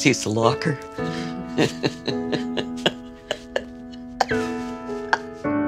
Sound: laughs

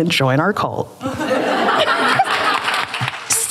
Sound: laughter

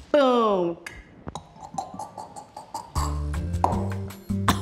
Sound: beat boxes

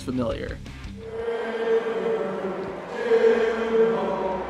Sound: crowd

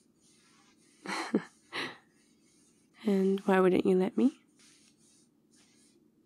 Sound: laughs

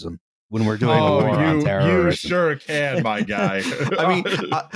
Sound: laughs; chuckles

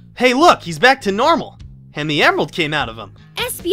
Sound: none

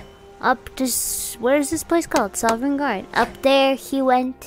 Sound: clack clack

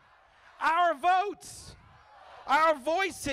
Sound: crowd

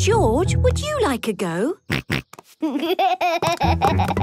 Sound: snorts, giggles

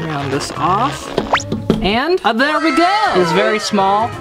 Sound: audience sighs

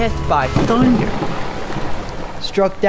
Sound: thunder and rain

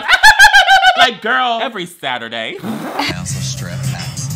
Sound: laughs; laughs

